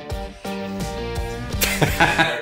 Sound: laughing

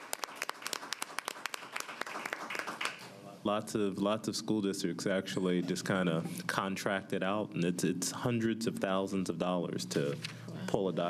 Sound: applause

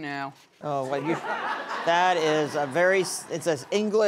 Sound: audience laughs

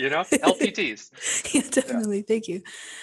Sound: laughing

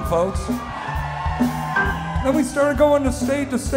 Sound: crowd cheering

